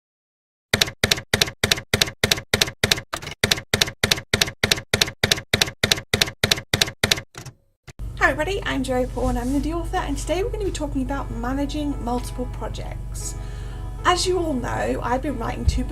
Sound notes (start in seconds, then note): 0.7 typewriter keys clacking